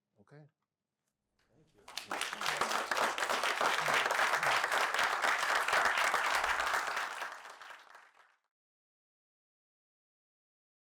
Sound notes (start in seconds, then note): 1.8 applause